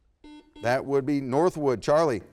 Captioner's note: buzzer beeps